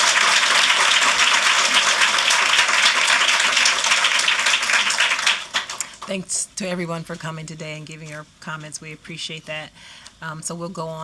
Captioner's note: applause